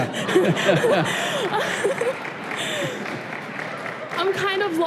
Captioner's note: laughter, applause